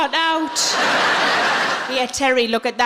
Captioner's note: audience laughing